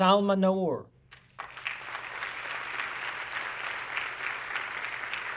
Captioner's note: audience clapping